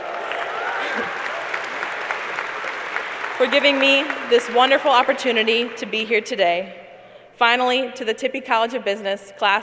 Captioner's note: cheers and applause